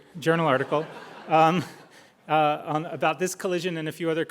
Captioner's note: crowd laughing